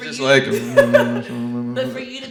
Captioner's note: murmuring